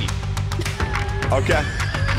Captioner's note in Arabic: تضحك